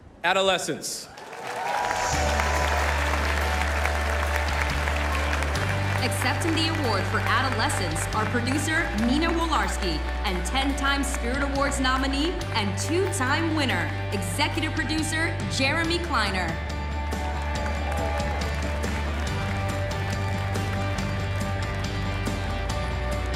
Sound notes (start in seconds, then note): 7.5 applause